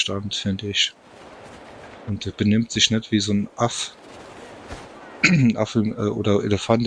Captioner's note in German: räuspern